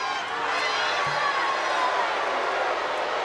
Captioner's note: crowd boos